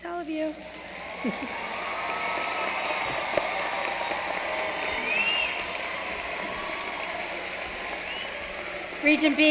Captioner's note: applause